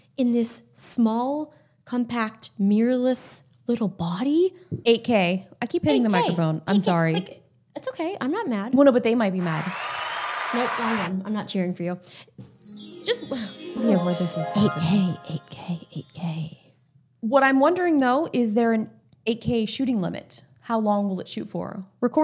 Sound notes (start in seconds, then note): 9.4 crowd cheering; 12.5 sweet music